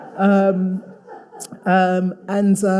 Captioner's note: audience laughing